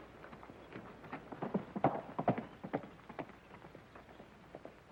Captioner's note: hooves pounding